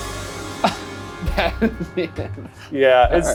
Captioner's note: laughs